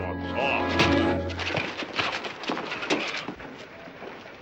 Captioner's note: yells